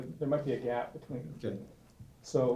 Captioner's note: voiceover; voiceover